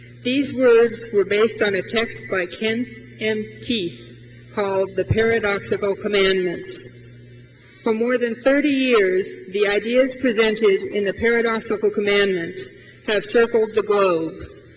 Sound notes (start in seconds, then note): none